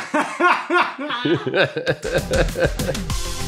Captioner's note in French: Rires